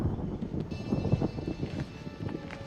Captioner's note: wind noise